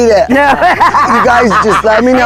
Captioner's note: laughing